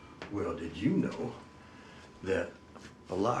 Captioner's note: none